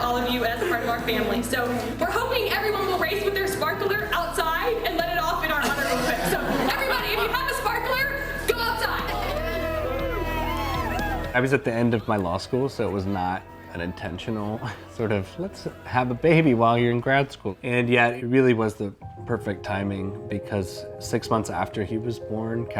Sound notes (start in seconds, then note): 5.6 everyone laughs; 8.8 everyone cheering